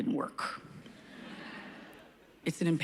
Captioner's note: laughs